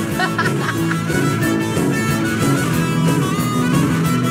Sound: laughing

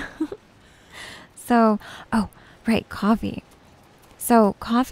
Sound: giggles

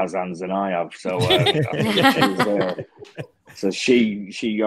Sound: group laughing

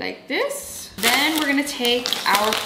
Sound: pretzel bag rustling

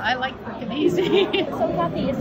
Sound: laughs

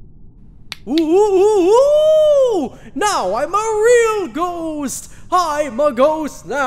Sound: ghost noises

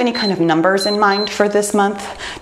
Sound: timer beeps

